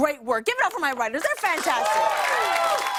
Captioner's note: cheers and applause